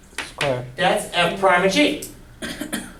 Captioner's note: voiceover